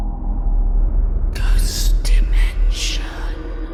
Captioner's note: ghostly Voice